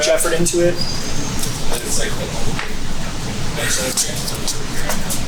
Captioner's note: indistinctive chatting